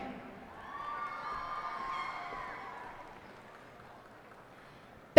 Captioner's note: cheers and applause